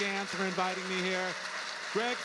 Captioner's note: audience applauding